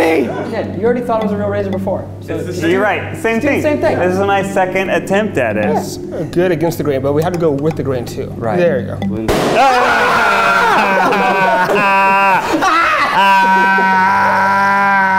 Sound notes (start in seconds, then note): 9.2 balloon pops; 9.5 all scream